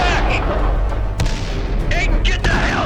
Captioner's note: explosion booming